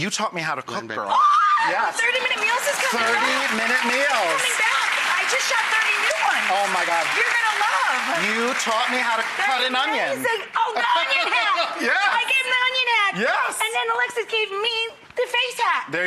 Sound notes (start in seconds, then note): 1.1 screams; 5.7 applause